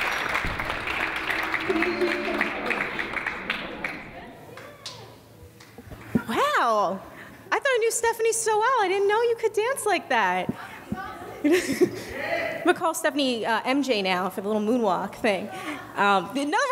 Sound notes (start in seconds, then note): 11.8 laughs